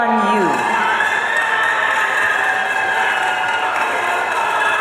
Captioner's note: audience cheering